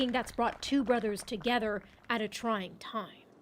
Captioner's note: applause